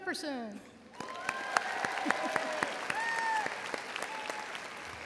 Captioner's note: audience cheering